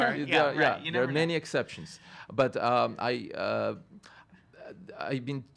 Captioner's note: stutters